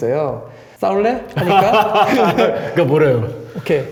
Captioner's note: laugh